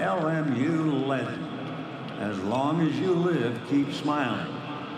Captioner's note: applause